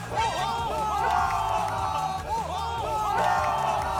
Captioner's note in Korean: 와아아아